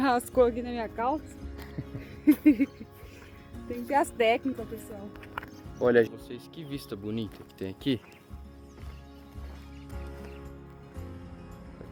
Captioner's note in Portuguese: risadas